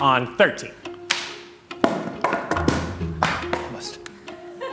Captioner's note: wood thudding